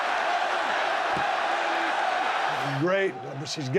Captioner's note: crowd cheering